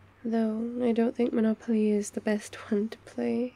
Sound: none

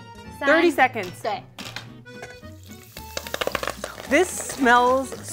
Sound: speaking in mandarin

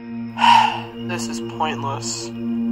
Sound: sigh

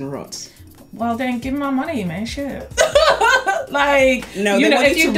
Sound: laughs

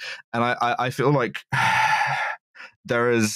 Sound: sighs

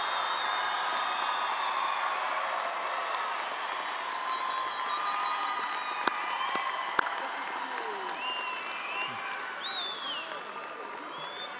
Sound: attendees applauding

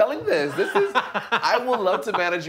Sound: laughing

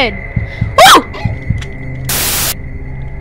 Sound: shouts in surprise

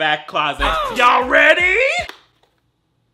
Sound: boy grunts

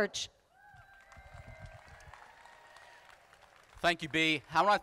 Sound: crowd applauding

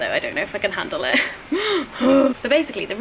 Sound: worried groaning

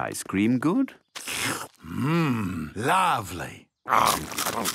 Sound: slurps

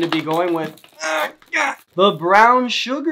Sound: groans

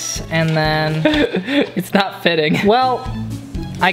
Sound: chuckling

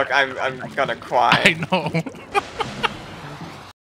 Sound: laughing

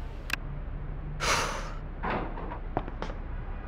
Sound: sighs

